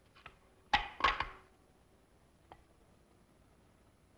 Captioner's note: boards clatter